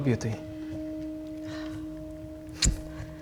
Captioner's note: regretful sigh